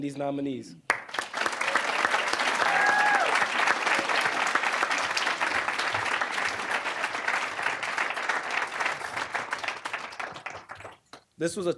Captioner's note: applause